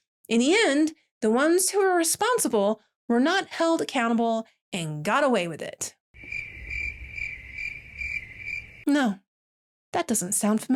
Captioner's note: crickets